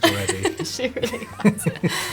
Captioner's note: both laughing